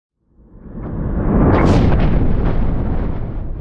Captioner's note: thunder crashing